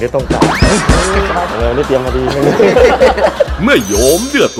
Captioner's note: laughter